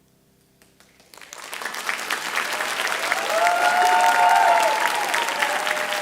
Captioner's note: audience cheering and applauding